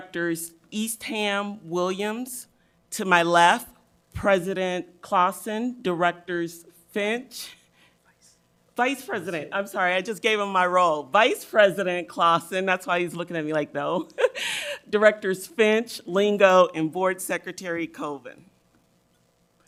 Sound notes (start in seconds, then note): 13.9 laughs